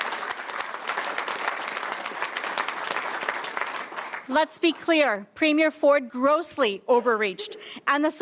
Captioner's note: applause